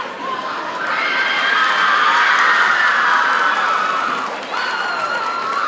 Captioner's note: audience cheers and applauds